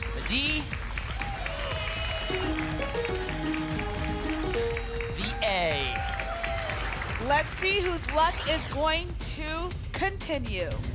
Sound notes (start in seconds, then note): 1.1 applause and cheering; 2.2 pinging sounds